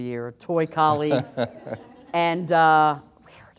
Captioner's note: laughter